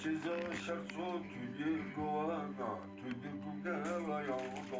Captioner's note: speaking in a foreign language